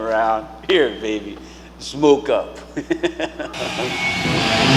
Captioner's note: chuckling; intense music